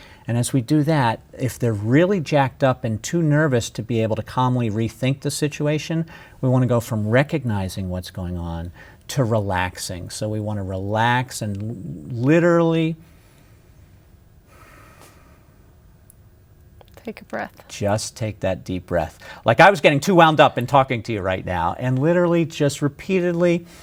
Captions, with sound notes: And as we do that, if they're really jacked up and too nervous to be able to calmly rethink the situation, we want to go from recognizing what's going on, to relaxing. So we want to relax and literally [takes deep breath]. >> Take a breath. >> Just take that deep breath. Like I was getting too wound up in talking to you right now, and literally just repeatedly,